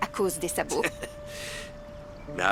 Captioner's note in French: rires